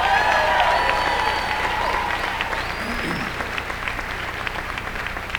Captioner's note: applause